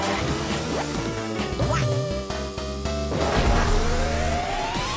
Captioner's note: notification plays